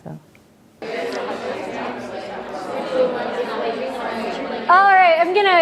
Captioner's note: classroom chatter